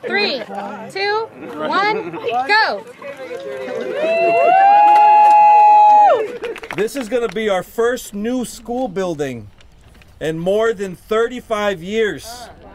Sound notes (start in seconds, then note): 2.7 group chattering; 2.9 group cheers; 6.8 group clapping